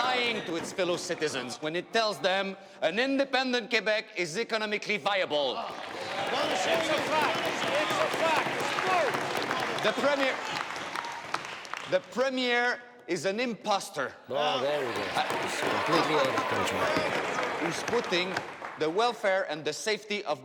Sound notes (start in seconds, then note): 5.6 people clapping